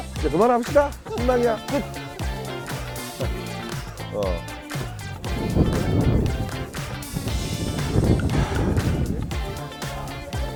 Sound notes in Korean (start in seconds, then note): 8.3 깊은 한숨